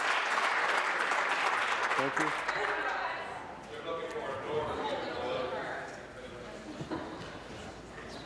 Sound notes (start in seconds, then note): 0.0 some Applause